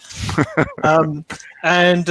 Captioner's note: laughing